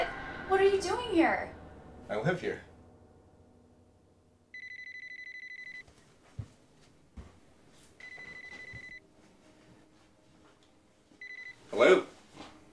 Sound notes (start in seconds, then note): 4.5 phone ringing